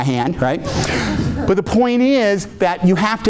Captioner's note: audience laughing